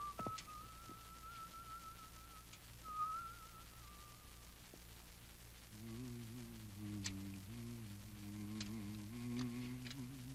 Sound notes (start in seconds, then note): 5.6 humming